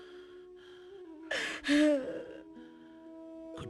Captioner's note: sobbing